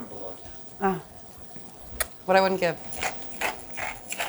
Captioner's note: lips smooch; spice grinder grinding